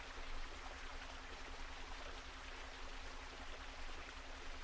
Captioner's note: water gushing